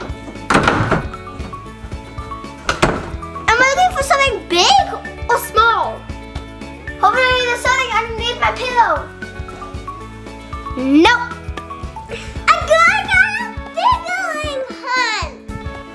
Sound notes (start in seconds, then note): 0.0 door opening; 0.0 door closing